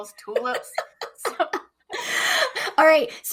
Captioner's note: chuckles